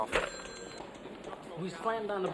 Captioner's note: phone clatters and rings